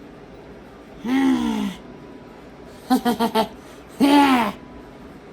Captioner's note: laughs and giggles